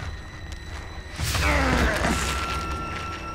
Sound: groaning

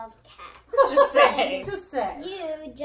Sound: laughs

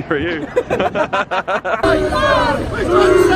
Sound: laughing

